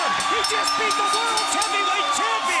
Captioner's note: bell ringing